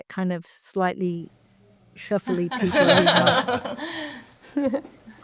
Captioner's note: panelists laughing